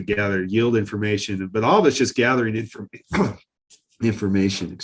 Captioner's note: coughs